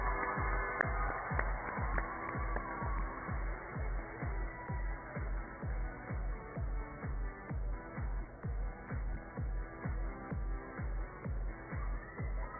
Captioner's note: cheers and applause